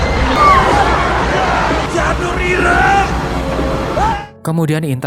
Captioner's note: screaming